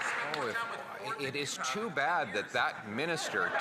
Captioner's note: some Applause